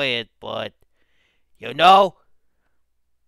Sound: russian Noise

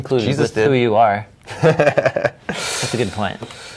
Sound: laughing

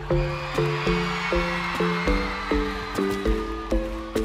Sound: audience cheering

